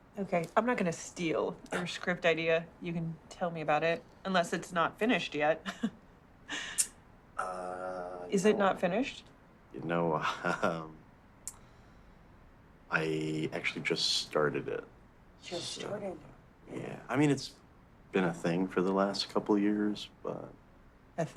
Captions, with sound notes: - Okay, I'm not gonna steal your script idea. You can tell me about it, unless it's not finished yet. (Laughs) Is it not finished? - No, I actually just started it. - Just started. - Yeah. I mean, it's been a thing for the last couple years, but.